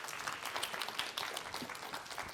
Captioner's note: applause